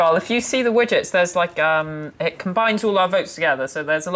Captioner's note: none